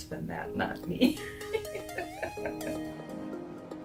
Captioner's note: laughs